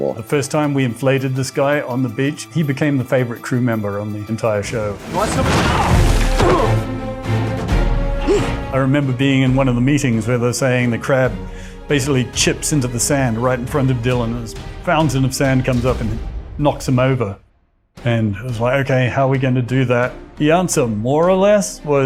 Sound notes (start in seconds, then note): 4.8 body thumps; 7.0 upbeat rousing music